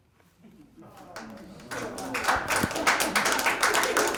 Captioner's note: applause